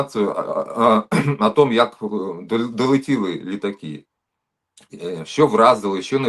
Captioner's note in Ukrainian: прочищення горла